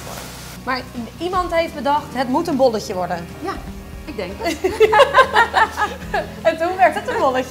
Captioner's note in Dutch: Gelach